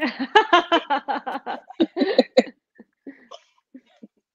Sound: laughing

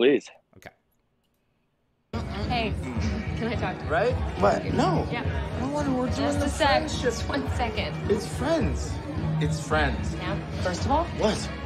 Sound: High Fidelty clip plays

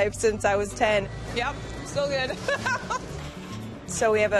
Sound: laughs

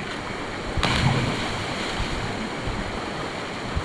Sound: splash

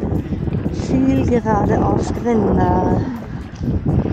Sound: strong wind

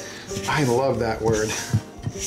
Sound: scraping

